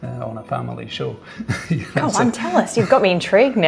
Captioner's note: laughing